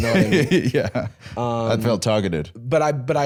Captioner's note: laughs